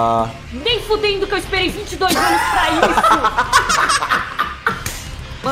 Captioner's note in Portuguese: risadas